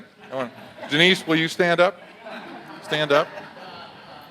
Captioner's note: audience laughs